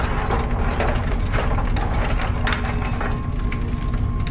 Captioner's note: parts rattling